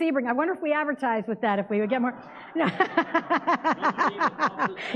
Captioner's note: laughs